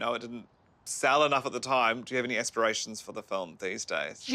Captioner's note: none